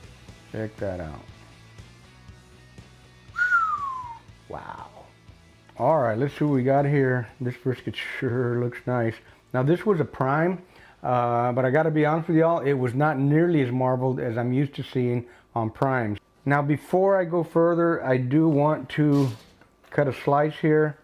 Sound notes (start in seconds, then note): 3.3 whistles